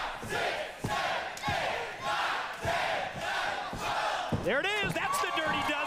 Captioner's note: crowd noise